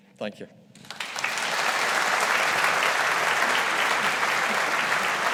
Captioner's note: audience applauding